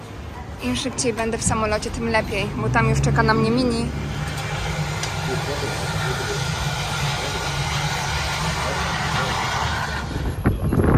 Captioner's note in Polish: Aplauz